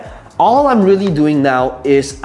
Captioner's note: tapping marker